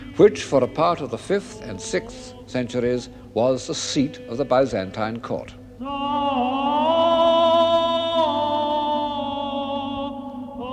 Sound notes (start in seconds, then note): 6.0 chanting continues